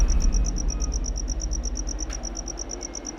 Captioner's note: crickets